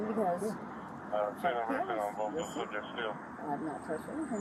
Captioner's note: radio chatter